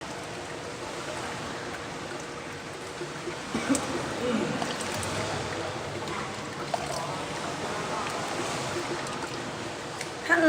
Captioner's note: water flow